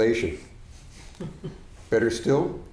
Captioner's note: audience chuckling